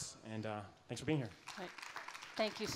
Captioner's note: applause